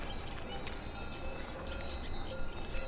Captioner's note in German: Kuhglocken